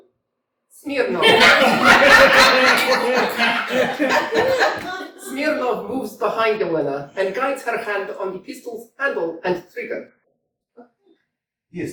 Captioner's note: laughter